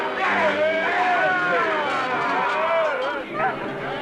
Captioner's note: grunting